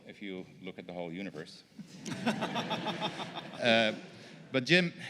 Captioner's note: laughter